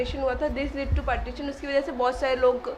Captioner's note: speaks in foreign language